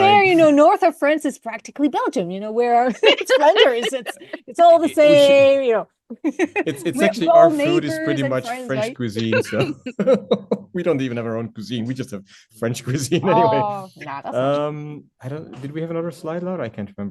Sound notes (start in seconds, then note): 2.8 laughter; 8.6 laughs